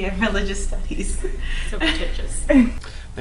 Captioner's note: laughs